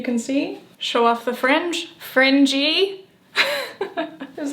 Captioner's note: laughing